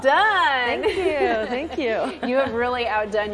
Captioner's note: laughs